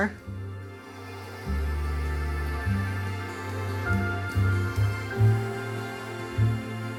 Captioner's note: bright music; hair dryer whirring